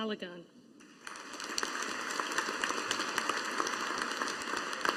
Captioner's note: audience applauding